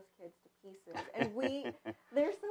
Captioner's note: laughs